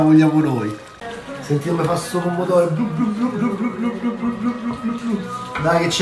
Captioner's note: imitating the sound of boiling tomato